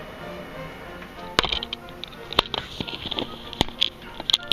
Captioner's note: shuffling noises